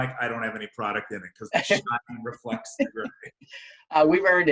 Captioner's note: murmurs